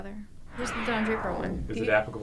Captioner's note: whooshing sound